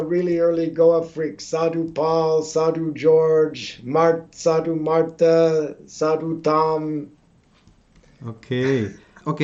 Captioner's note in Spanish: Risas